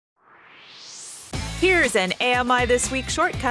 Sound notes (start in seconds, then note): 0.2 swoosh